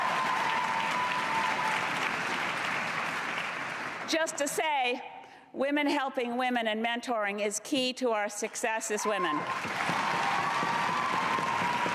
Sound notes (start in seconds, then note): 3.4 cheers and applause